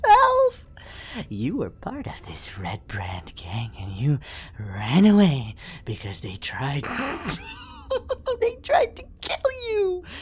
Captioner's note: laughs